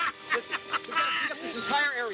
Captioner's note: laughter